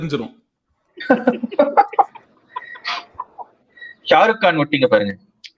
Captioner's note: laughs